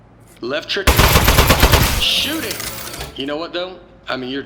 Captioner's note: bullets Begin Firing